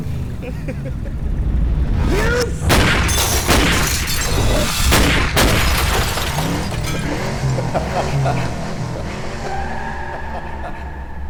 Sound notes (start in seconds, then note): 2.0 gun shots; 8.4 laughter